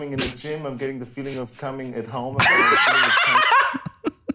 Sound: shocked laughter

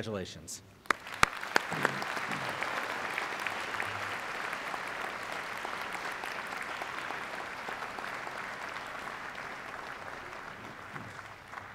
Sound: applause

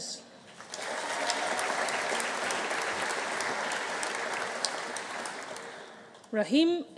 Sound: audience applauding; audience cheering

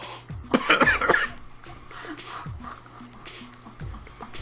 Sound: coughs

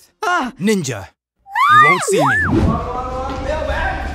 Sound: screams

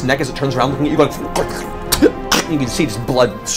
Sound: sputters

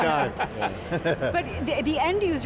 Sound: everyone laughs

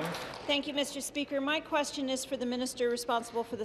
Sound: applause

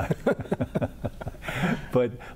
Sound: laughter

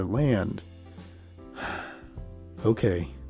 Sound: deep Sigh

